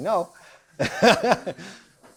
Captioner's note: laughs